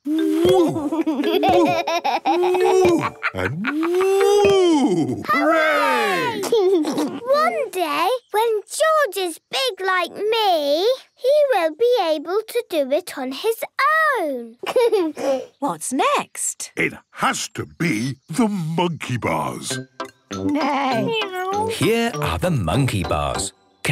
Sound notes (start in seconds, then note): 2.2 laughs; 6.2 laughs; 14.6 giggles